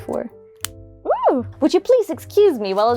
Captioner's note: pop